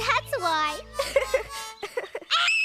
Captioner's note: giggles; keesha shrieks